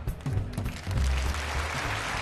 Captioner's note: audience applauding